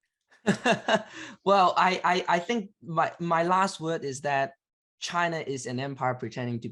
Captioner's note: laughs